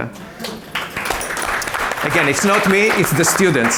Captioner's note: audience applause